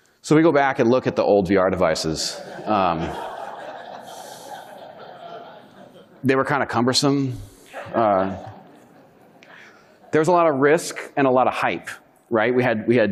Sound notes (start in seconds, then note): 1.7 audience laughing